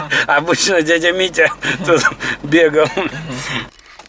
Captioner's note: laughs